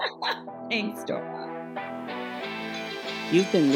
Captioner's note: laughter